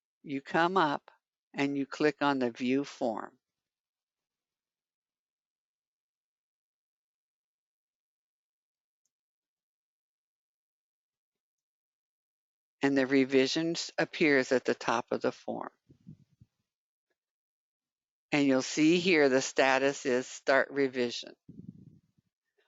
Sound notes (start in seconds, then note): 4.1 9 seconds pause